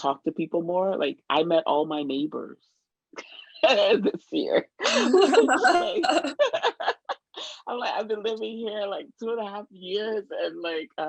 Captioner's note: laughter